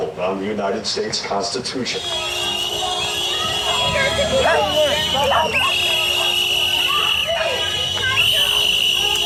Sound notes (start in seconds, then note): 1.8 horns honking; 2.1 whistles blaring